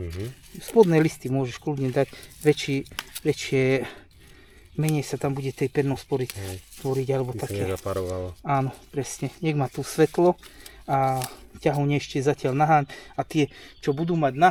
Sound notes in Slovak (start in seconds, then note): 12.8 smrkanie